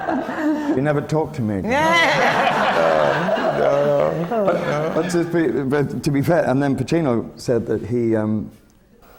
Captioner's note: laughter; laughter